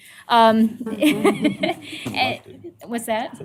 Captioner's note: laughter